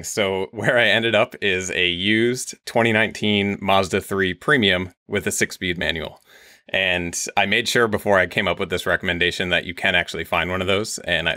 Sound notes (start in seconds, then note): none